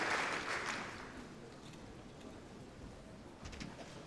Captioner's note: applause